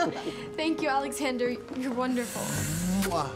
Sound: all chuckling

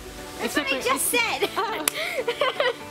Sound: laughs

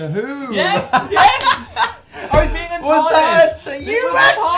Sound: laughs

